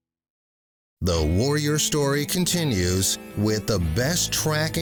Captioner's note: voiceover